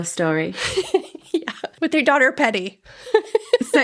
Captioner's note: laughing